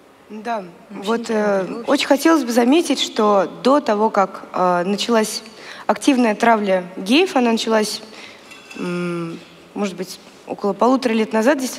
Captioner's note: foreign Language